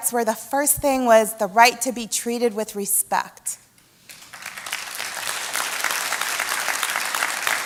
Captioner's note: applause